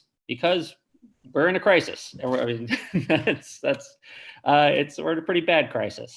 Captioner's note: chuckles